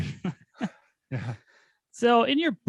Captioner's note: laugh